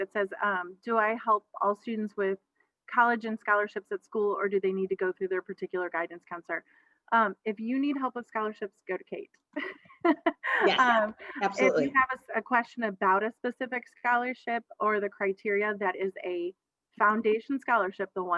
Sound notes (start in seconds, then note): 10.1 laughs